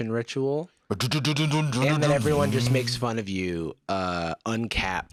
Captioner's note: mimicking revving engine